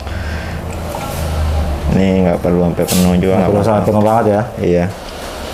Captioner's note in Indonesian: suara tinta dituang; suara tinta dituang